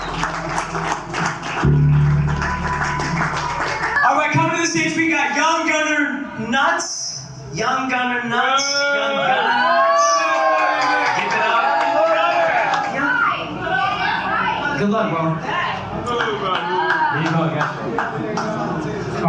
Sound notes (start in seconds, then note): 0.0 crowd cheering; 8.8 crowd booing; 15.9 crowd heckling